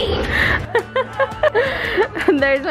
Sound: laughing

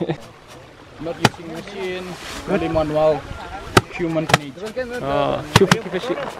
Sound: speaking Indonesian

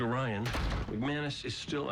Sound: door closes

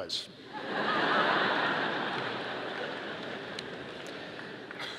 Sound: audience laughing

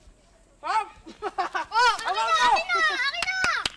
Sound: laughing

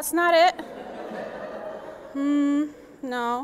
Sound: audience laughs

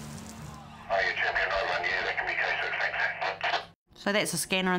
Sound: police scanner chatter

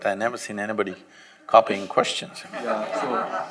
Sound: laughter

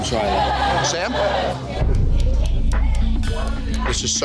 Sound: speaks in a foreign language; taps food on glass

